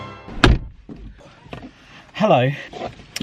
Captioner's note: door slams